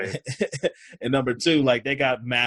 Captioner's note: laughs